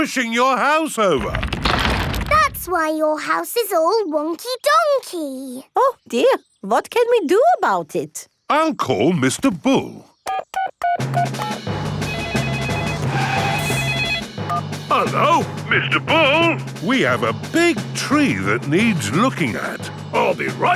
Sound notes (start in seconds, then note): 12.0 phone ringing; 12.0 beeping